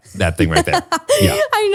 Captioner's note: laughs